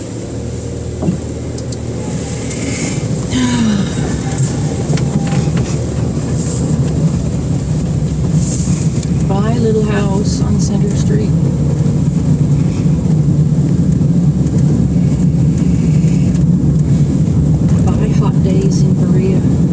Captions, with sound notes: [ Deep inhale and exhale ] Bye, little house on Center Street. Bye, hot days in Berea.